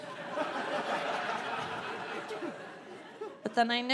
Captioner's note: audience laughing